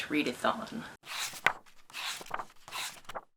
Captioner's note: pages turning